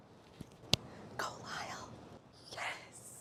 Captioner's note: whispering